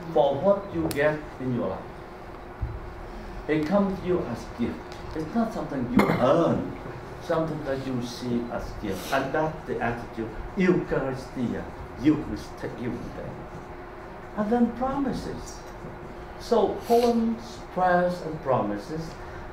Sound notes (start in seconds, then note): 13.0 faintly speaking